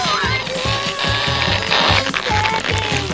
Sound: moaning

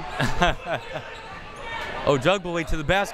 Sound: laughing

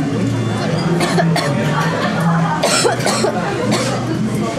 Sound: suddenly starts coughing

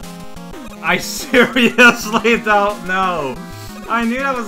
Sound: while laughing

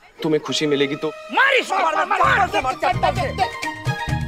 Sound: everyone shouting

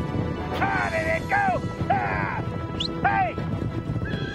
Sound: Frank yelling

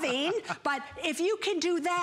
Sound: laughter

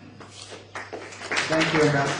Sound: applause

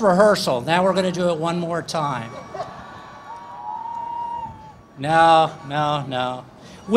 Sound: laughter

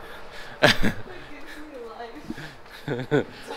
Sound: laughing

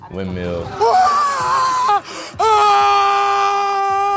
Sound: cheering

